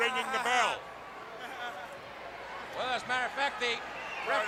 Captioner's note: crowd chatter